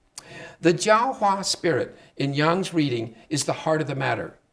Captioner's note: speaking Chinese